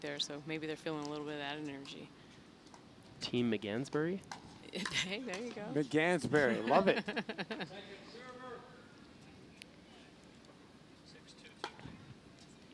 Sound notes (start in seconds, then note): 6.6 laughing